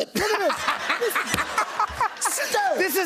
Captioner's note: laughter